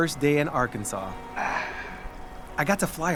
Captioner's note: Baratunde sighs